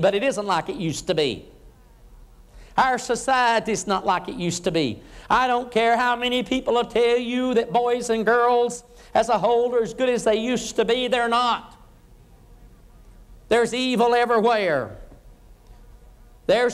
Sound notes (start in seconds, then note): none